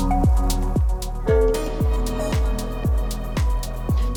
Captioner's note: bell ringing